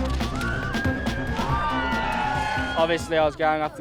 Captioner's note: spectators cheering